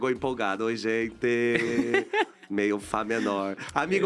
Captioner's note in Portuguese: risos